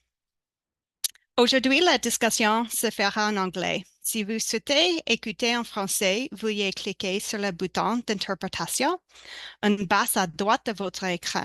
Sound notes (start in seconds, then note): 0.0 speaking french